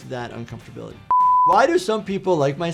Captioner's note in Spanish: pitidos de producción